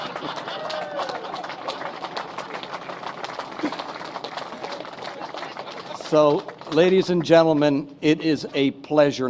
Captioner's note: laughter; applause